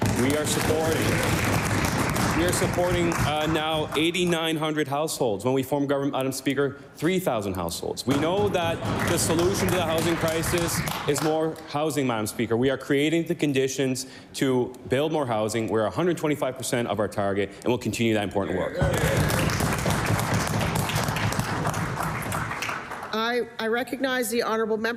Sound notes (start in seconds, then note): 5.7 applause